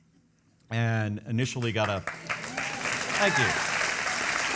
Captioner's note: audience clapping